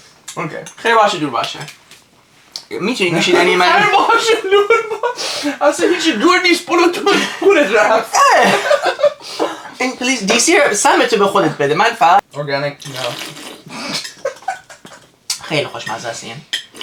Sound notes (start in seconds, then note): 12.8 slurp